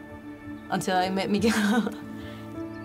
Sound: laughs

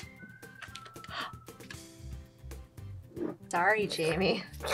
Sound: gasps

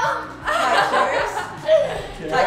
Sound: laughing

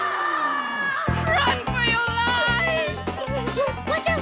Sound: screaming

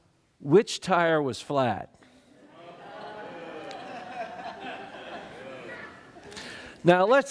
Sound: laughter

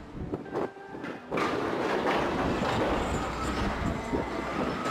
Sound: metal clanking

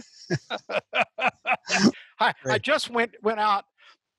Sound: he laughs

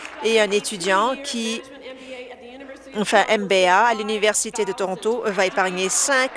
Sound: applause

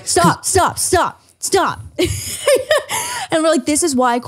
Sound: laughs

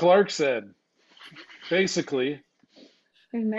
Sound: chuckles

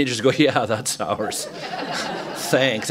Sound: laughter

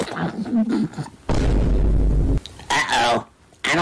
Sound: boom sfx

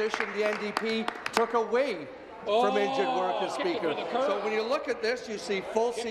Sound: applause

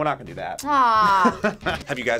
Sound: laughs

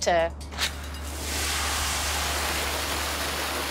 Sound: water rushing; suspenseful music

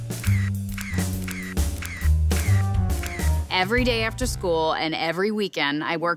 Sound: camera click sounds

